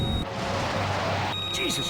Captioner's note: missile whooshes